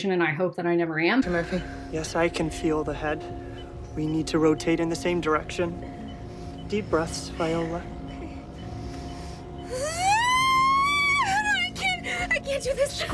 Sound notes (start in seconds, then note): 9.7 screaming